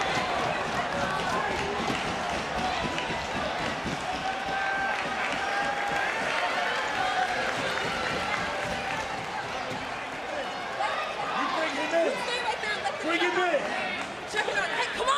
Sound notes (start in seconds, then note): 4.5 audience cheering